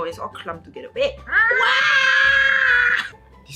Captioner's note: screaming collectively